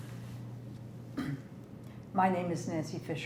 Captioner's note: throat-sound